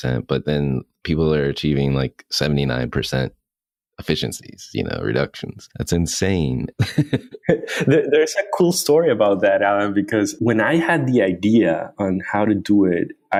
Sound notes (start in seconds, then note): 6.7 laughs